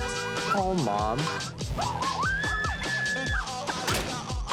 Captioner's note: horn honking; screaming